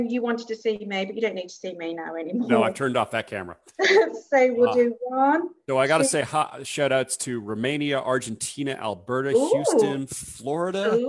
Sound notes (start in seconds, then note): 2.4 laughs